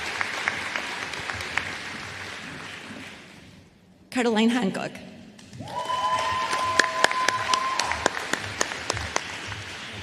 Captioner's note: applause